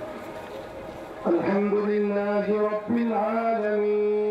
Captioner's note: prayers